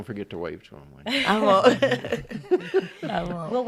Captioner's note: laughing in unison